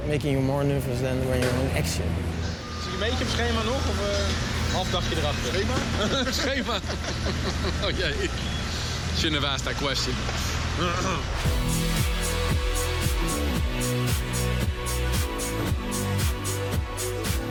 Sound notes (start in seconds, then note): 3.1 speaking in foreign language; 5.7 laughing